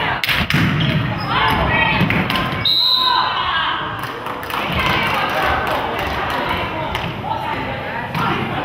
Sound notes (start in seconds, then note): 2.6 whistle blows; 4.0 crowd claps